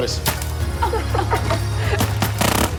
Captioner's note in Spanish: Detonaciones de rifles de pintura; Disparo